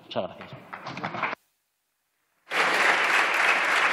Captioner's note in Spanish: Aplausos